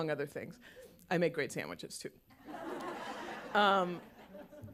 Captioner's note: laughter